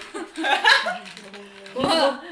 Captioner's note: laughs